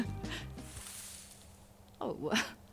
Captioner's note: rustle